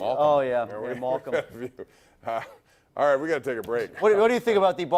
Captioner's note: laughter